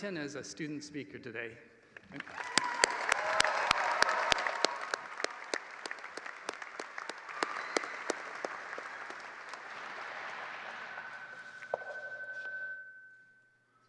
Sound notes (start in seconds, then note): 5.6 applause